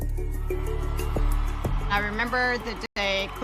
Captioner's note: crowd cheering